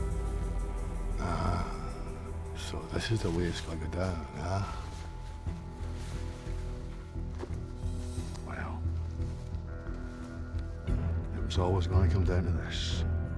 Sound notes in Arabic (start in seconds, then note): 1.1 لهجة اسكتلندية; 5.0 موسيقى متوترة